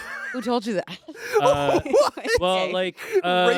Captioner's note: laughs